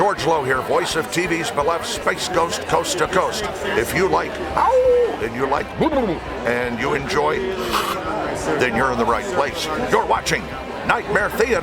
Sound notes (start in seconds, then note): 4.6 howling; 5.3 warbling; 6.8 hissing